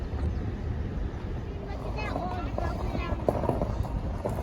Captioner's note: crunchy gravel